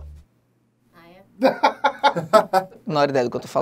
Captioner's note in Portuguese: risadas